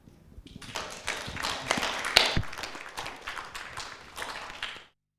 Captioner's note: audience clapping